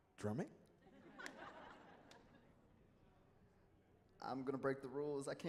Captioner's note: audience laughing